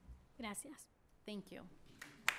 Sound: speaking spanish

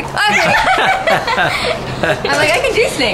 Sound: laughter

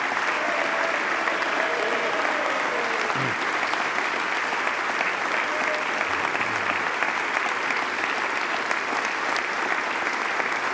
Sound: cheers and applause

